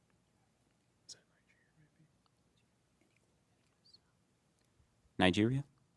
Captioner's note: contestants whispering